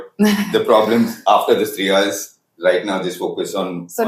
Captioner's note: laughs